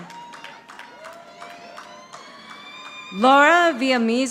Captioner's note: audience applauding